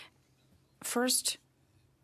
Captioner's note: speaking French